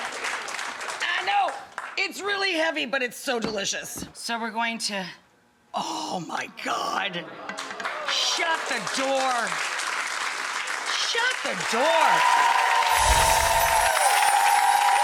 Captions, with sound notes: I know, it's really heavy, but it's so delicious. So we're going to, oh my God, (audience applause) shut the door. Shut the door. (audience applause)